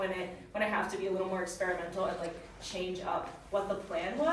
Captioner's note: none